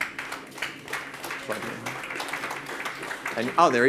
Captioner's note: audience claps